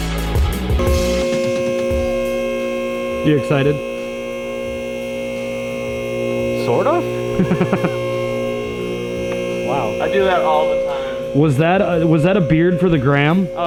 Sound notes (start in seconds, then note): 1.4 screeches; 7.3 laughs